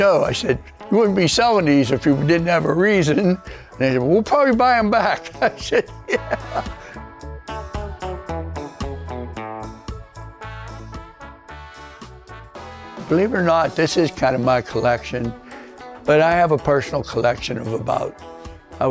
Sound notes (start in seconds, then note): 6.0 laughing; 7.1 upbeat reggae music